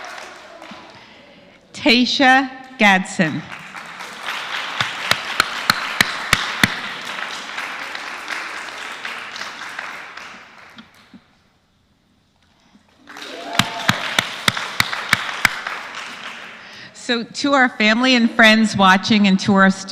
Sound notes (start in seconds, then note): 8.0 applause